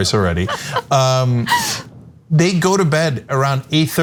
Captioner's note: laugh